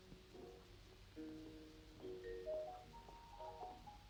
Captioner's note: footsteps tapping